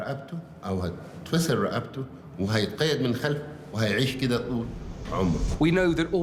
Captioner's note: in Arabic